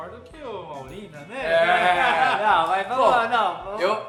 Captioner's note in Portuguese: risos